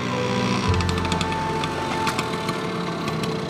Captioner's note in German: Motorroller knattert